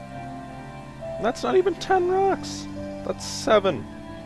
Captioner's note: voice cracks